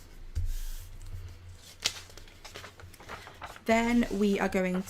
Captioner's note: paper rustling